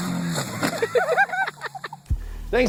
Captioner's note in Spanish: risa